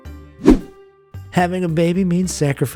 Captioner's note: air whooshing